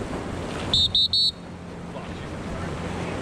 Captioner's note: whistle blowing